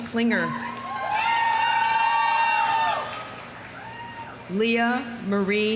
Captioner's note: audience cheering; audience applauding